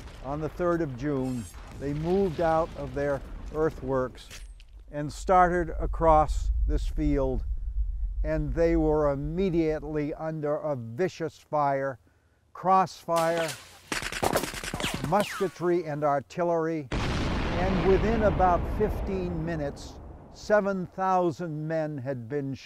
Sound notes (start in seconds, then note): 13.1 shooting; 16.9 explosion booming